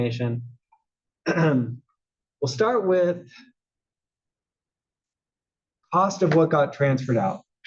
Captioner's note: cough